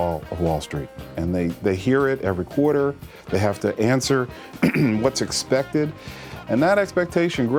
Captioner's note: clears throat